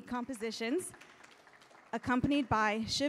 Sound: audience applauding

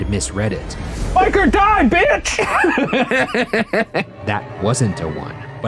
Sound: laughing

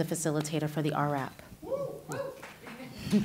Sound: scattered cheers; laughter and scattered claps

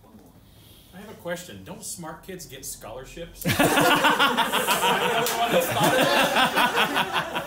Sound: laughter

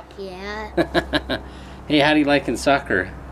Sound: chuckling

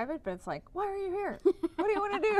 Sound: laughter

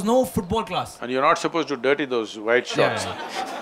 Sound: laughter

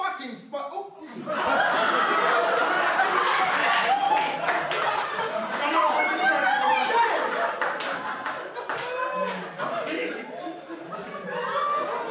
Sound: laughter

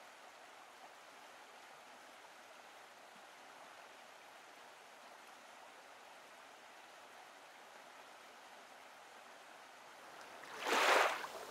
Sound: water flowing, bird calls

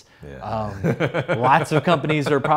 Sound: laughs

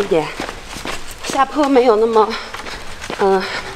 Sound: running

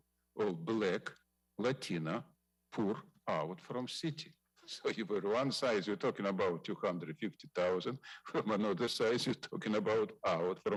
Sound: speaking foreign language

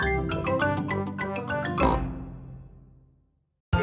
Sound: snort

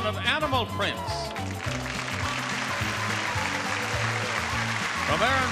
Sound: audience clapping and cheering

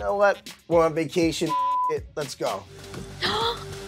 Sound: beep

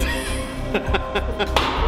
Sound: laughing

